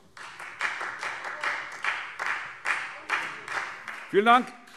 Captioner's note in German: Beifall Freie Demokraten